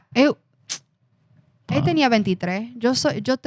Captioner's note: speaking Spanish